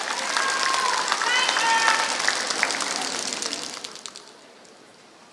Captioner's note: applause